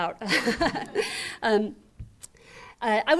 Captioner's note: laughter